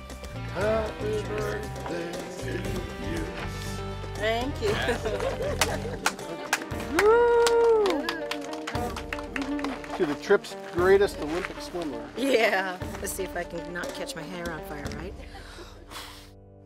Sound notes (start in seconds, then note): 5.1 applause